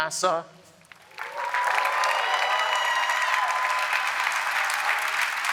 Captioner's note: cheering, applause